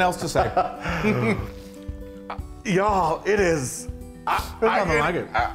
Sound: laugh

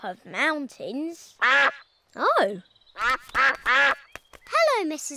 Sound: all quack

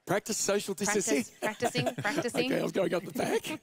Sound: laughs

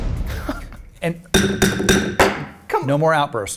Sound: laughs; pounding; gavel banging

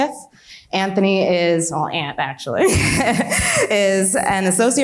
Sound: laughs

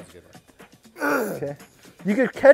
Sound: clears throat

